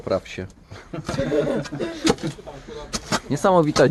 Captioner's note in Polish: śmiechy i szczęk szpadli w tle